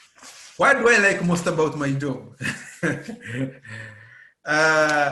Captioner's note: laughing